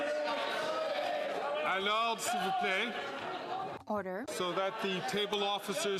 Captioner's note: cheering and Applause